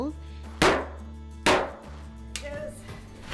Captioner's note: mallet pounding